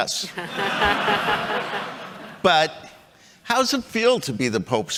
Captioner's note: chuckles